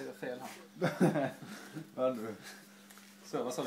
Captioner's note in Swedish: skratt